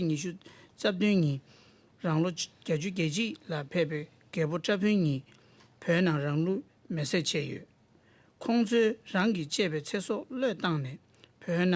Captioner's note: speaking Alternate Language